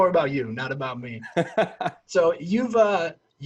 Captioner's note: laughs